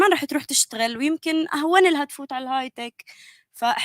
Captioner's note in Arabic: لغة أجنبية